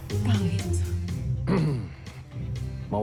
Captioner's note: soldarius clears throat